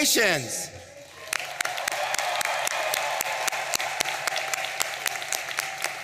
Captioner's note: audience applauding and cheering